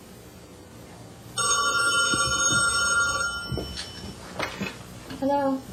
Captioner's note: phone ringing